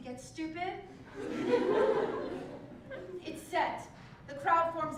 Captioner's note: laugh